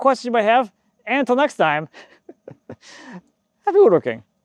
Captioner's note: chuckles